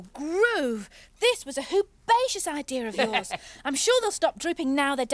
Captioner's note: laughing